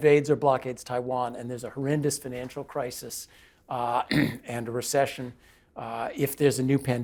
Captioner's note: cough